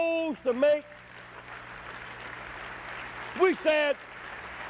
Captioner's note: applause